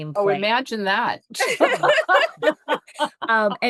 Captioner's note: laughter